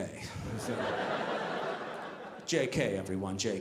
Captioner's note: audience laughing